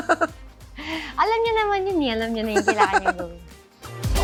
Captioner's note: laughs; laughs